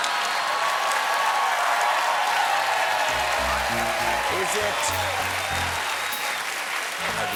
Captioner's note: cheers and applause; piano riff